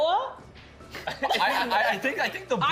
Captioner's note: everyone laughing